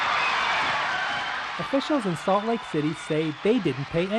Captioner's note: cheering